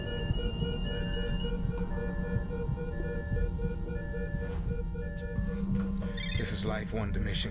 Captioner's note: beeping stops